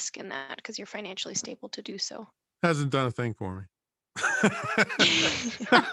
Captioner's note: laughs